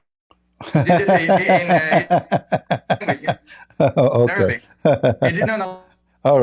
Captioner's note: Ketawa